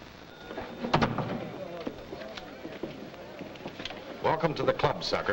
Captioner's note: door thuds shut